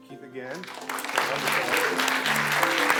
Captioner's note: applause